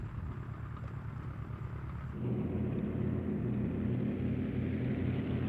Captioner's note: plane humming